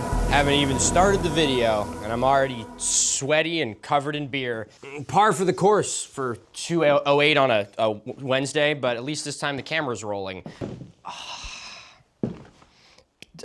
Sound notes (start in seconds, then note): 11.0 sighs